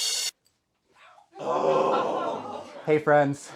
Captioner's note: sighs